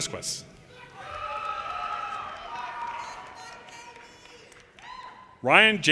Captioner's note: audience cheers and applause